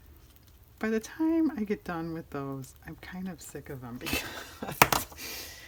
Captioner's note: laughs